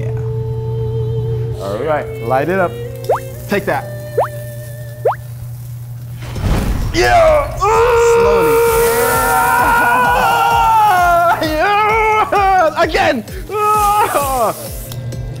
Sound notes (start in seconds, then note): 5.2 flame ignites; 9.2 screams; 13.9 laughs